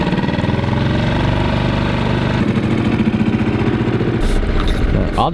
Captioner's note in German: Bootsmotor rumpelt